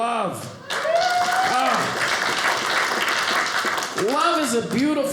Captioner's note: audience applauding